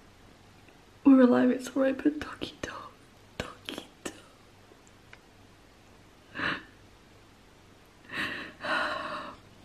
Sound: crying

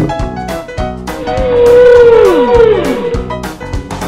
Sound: whale sound

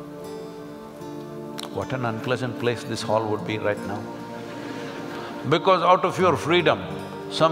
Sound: laugh

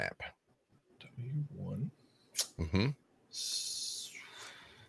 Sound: whispering

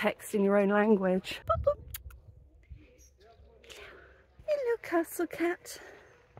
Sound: kissing sound

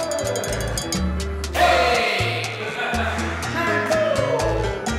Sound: laughs

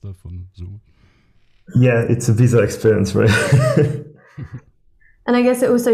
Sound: laughing

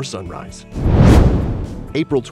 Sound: whoosh

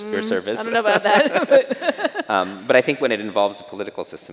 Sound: chuckles

